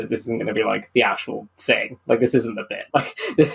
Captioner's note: laughing